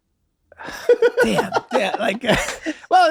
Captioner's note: Rob laughs